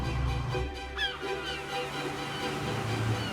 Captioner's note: bird squawking